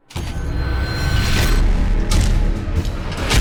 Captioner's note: clanging